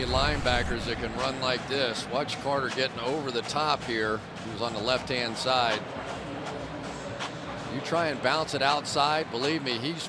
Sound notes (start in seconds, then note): none